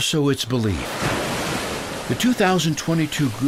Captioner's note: wave crashes